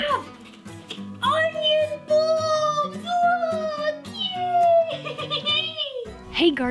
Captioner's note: crazy laugh